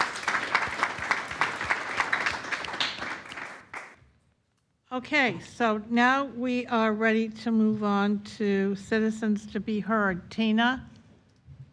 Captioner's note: applause